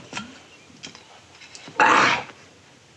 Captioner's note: grunts